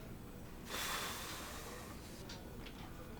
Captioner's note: sighing